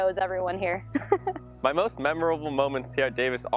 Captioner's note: chuckles